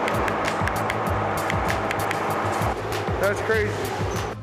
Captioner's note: knocking noises